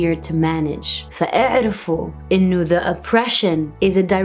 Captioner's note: foreign language